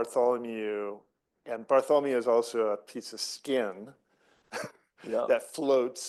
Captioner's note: laughs